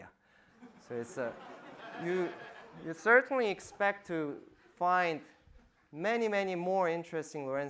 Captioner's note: audience laughing